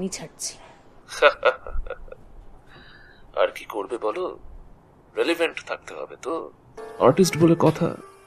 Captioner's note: laughs